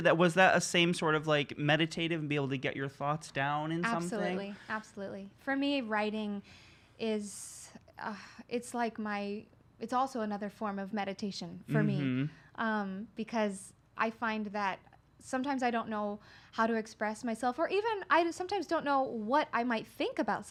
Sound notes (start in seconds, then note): 7.3 sighs